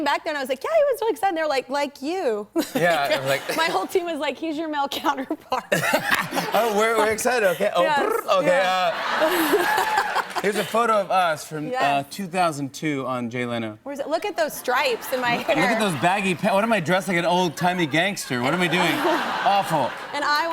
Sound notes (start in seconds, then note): 5.6 laughter; 8.7 laughter and applause; 14.6 laughter; 17.6 laughter